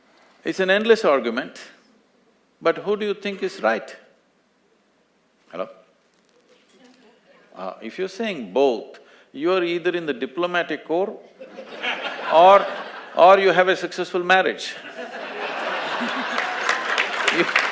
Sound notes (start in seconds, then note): 11.2 laughter; 14.8 laughter & Applause; 17.6 laughs